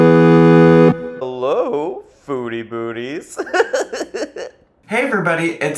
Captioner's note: gaming music; laughing